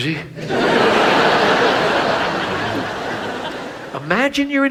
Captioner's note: audience laughs